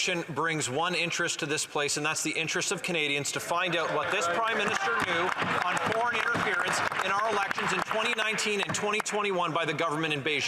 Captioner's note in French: voix de l'interprète